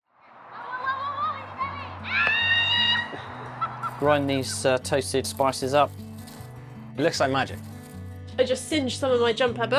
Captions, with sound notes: Woe, woe, woe, woe, woe - it's going! (screams) (laughing) Grind these toasted spices up. It looks like magic. I just singed some of my jumper,